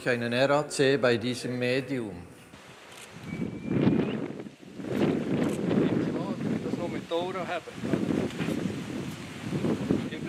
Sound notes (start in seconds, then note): 3.2 whistling sound